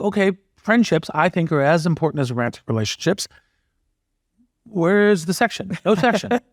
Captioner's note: laugh